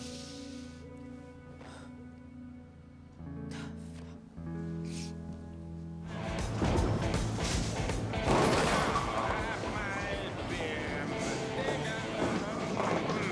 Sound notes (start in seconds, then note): 3.3 sighs